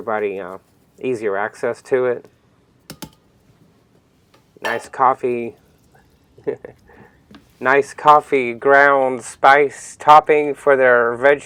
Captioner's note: laughs